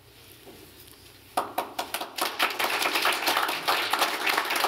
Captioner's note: applause